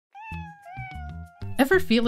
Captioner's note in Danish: Meowing